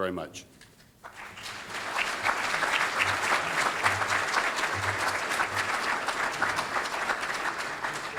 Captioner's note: audience applauding